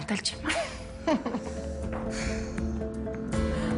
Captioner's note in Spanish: Risas